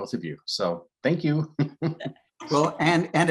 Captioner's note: laughs